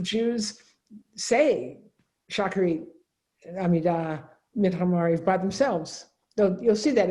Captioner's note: speaks in Hebrew